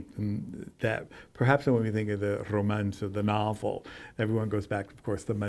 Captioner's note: none